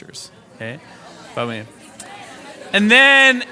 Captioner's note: participants conversing